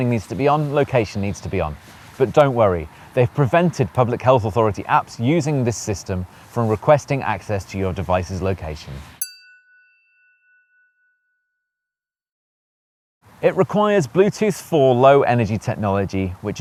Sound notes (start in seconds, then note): 9.2 chiming tone